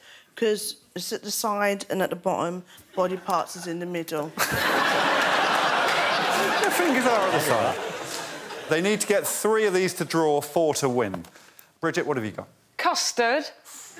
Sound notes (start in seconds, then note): 6.6 laughter